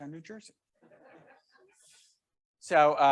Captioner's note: members laughing